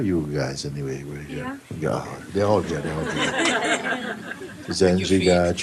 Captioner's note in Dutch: gelach